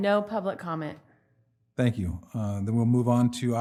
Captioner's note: speaking away from mic